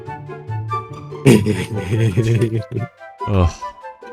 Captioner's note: laughing